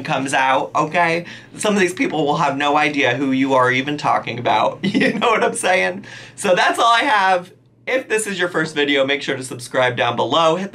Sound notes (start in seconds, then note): 5.1 laughs